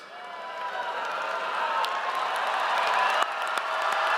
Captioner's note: audience cheers